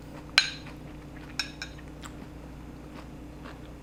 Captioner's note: chewing